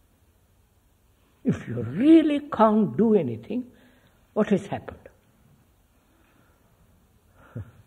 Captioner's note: laughs